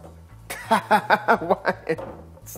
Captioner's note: laughing